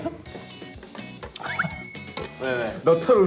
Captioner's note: laughter